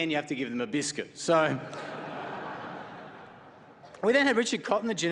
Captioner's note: laughter